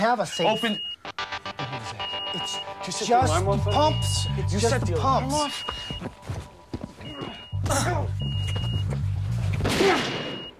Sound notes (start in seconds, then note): 1.0 beeping; 9.6 gunshot